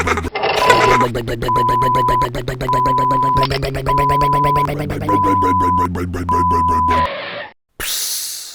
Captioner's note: backup beeper; hiss